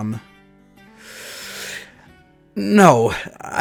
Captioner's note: inhale